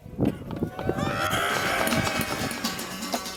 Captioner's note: cheering